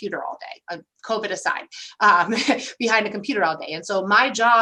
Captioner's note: laughter